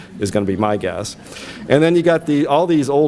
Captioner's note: audience laughs